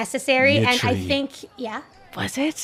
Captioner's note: sighs